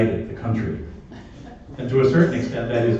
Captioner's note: laughter